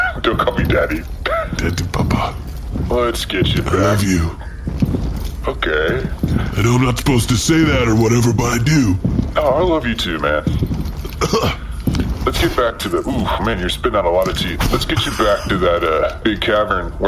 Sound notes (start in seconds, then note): 1.2 laughing; 6.0 hesitant